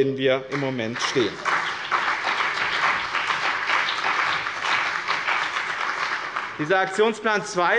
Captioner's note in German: Beifall bei dem BÜNDNIS 90/DIE GRÜNEN und der CDU